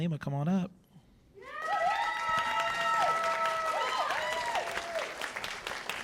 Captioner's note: cheers and applause